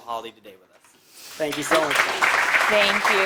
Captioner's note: applause